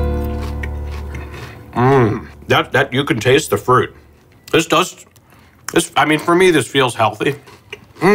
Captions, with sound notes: (moans) You can taste the fruit. This does, I mean, for me, this feels healthy.